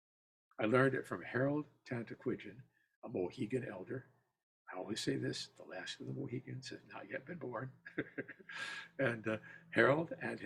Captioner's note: laughter